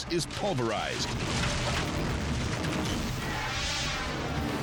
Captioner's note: house collapses; air whooshes